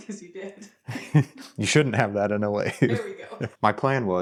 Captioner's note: laughs